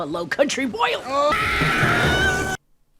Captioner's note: scream